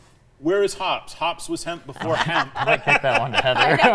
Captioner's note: all laugh